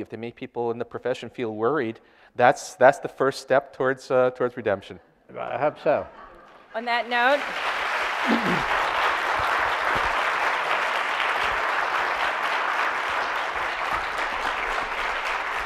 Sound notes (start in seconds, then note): 5.8 audience laughter; 8.0 applause